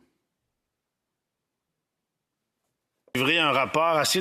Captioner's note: speaking French